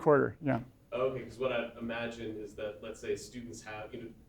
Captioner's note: voiceover